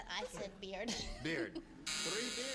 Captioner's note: buzzer